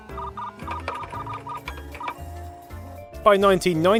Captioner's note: keyboard and modem sounds